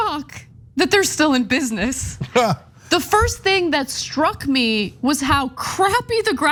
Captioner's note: laugh